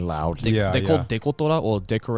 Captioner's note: speaking in foreign language